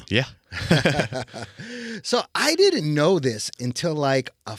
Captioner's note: laughing